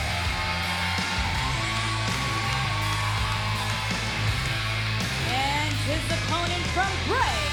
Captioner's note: cheers and applause